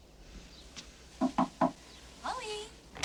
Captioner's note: knock on door